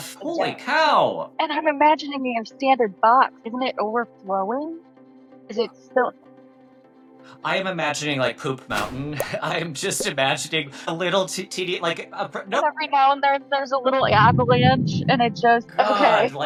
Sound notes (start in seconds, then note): 8.6 graphic blooping; 8.7 poop thudding; 14.1 avalanche roaring